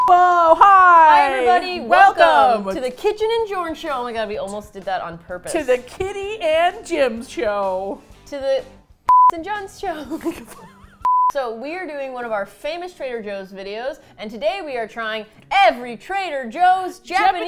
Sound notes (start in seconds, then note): 8.3 with hesitation; 9.9 both laugh